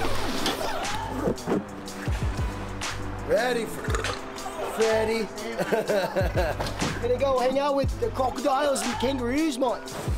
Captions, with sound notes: Ready Freddie. [BURPS] [LAUGHS] Going to go hang out with the crocodiles and kangaroos, mate.